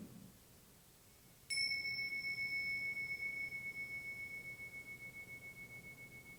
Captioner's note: bell chimes